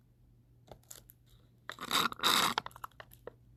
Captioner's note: sip sip